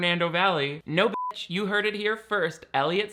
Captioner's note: beeps